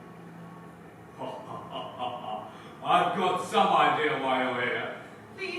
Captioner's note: voice laughs